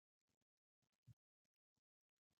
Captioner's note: pause